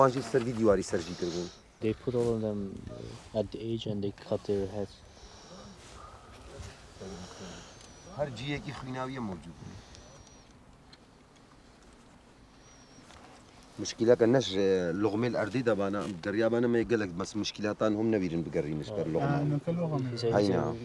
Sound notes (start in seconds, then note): 12.7 speaking foreign language